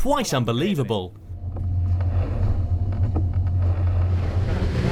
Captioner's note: water hitting boat